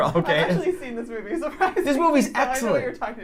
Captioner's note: laughter